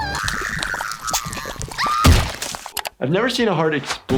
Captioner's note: sniffles groaning